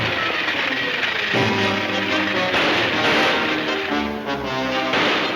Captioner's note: gunshots banging